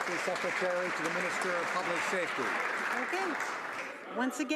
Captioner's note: some Applause